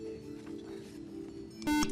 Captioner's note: buzzer